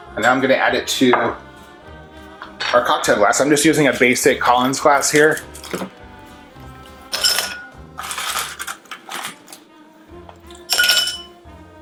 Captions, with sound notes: And now I'm gonna add it to our cocktail glass. I'm just using a basic Collins glass here. (ice clinking)